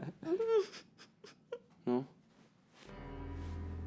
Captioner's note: laughs